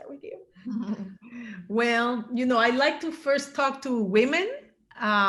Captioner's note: chuckles